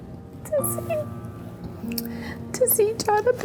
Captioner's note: crying